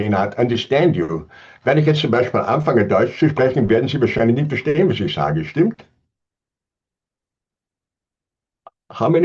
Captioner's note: speaking german